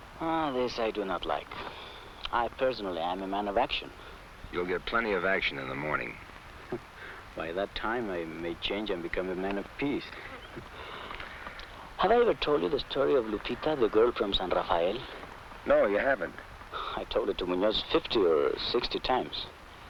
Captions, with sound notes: Ah, this I do not like. I personally am a man of action. - You'll get plenty of action in the morning. - (chuckles) By that time I may change and become a man of peace. Have I ever told you the story of Lupita, the girl from San Rafael? - No, you haven't. - I told it to Munoz 50 or 60 times.